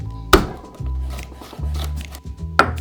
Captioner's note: knife smashing